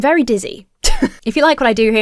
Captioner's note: chuckles